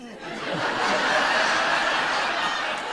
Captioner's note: laughter